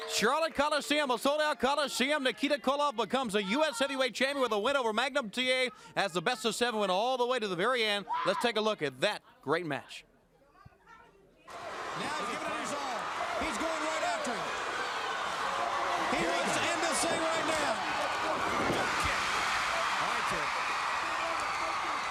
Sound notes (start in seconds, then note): 12.7 crowd chatter; 21.7 crowd cheering